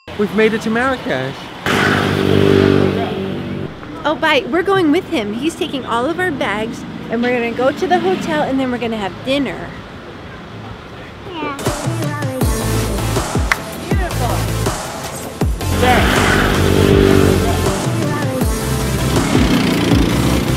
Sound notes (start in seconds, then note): 0.0 record scratches, bell rings; 1.6 engines revving; 11.9 trance music; 15.7 engines revving; 17.8 trance music